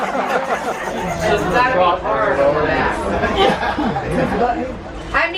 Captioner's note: chatter